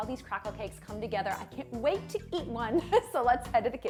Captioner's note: chuckling